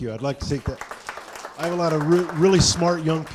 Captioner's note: audience applauding